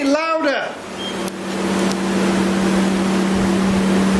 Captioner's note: device beeping